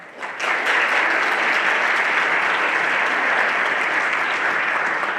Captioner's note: everyone applauding